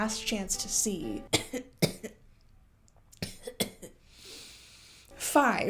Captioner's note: cough, cough